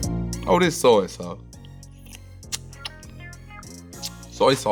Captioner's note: lips smacking